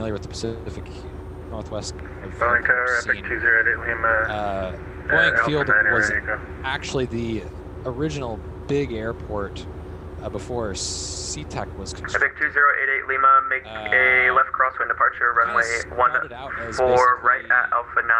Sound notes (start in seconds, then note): 2.3 radio chatter; 12.2 radio chatter